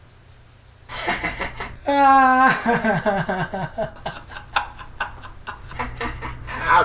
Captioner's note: they all laugh